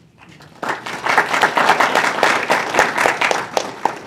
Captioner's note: audience appluses